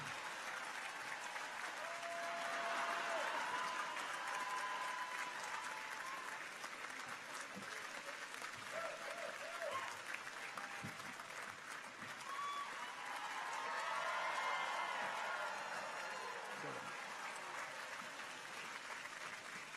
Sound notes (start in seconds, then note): 8.9 audience continues to applaud; 14.7 people cheer